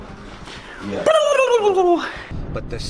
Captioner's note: speaks gibberish